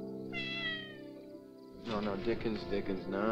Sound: cat meowing

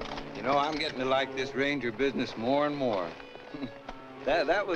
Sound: chuckles

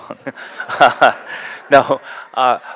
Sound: laughter

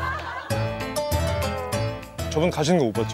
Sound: suppressing laughter

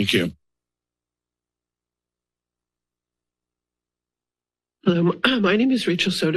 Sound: silence

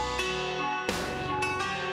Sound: finger thunking softly on tablet; tense music

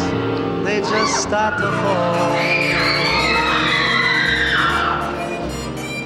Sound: audience screams

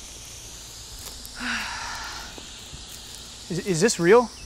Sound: actress sighing

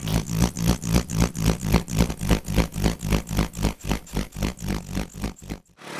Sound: grader motor

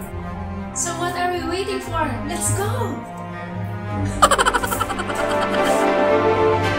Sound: laughs

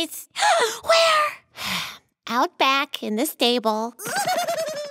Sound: gasp

